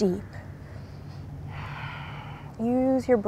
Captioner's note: takes deep breath